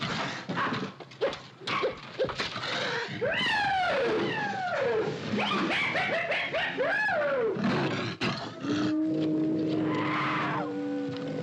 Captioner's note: leopard growls; cacophony of animal noises